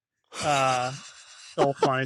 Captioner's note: laughter